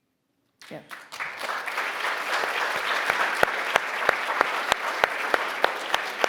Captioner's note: Bob and audience applauding